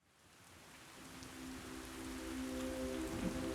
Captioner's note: rain pattering